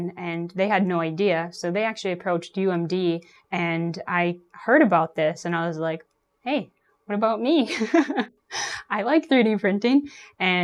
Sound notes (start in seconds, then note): 7.7 laughs